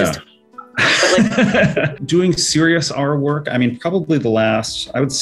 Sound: laughs

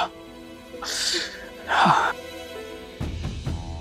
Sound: Dhruv grunts

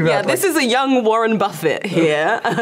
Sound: laughing

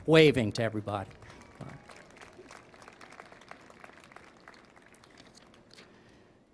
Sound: applause

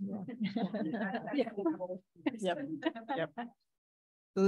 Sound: audience laughing

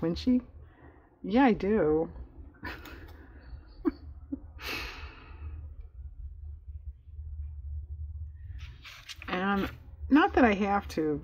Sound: laughs

